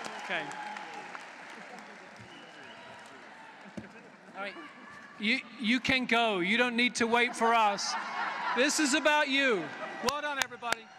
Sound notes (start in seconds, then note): 7.6 laughter; 10.0 applause